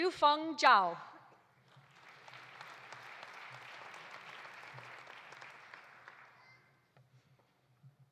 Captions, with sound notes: Yufeng Zhao. (audience applauding)